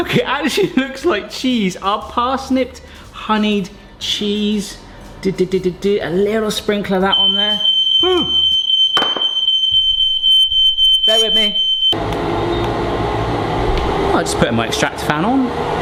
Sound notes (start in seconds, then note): 7.1 smoke alarm blares; 9.1 smoke alarm blaring; 12.2 fan whirring